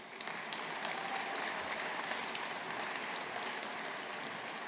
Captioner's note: audience applauding